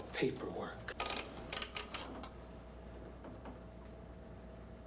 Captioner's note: typewriter clacking